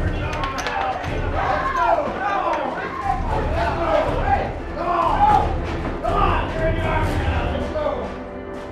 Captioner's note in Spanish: Sound multitud pelean